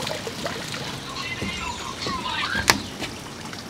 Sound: gangster Cell Phone Ringtone

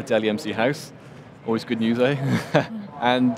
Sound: chuckles

